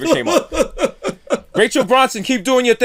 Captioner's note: laughter